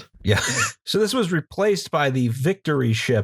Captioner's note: laughter